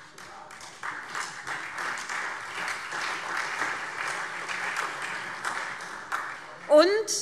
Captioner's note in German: Beifall SPD und Freie Demokraten